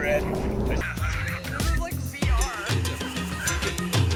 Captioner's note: laughs; upbeat music